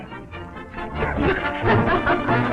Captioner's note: laughter